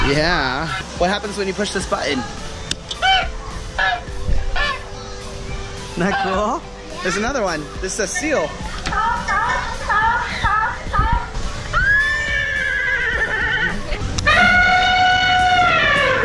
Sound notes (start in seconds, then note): 2.1 ostrich calling; 8.8 seal barking; 11.9 horse neighing; 14.1 elephant trumpeting